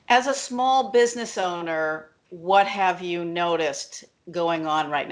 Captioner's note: none